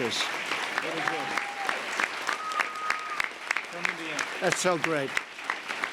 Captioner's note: applause